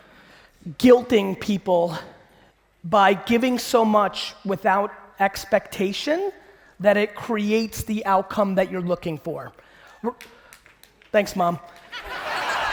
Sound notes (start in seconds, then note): 10.1 clapping; 11.9 audience laughing